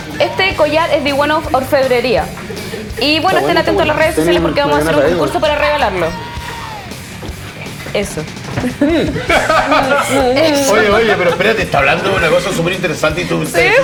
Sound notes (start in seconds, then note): 9.2 laughs